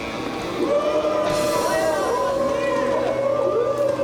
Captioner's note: crowd boos